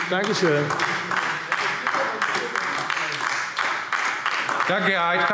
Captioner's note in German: Beifall AfD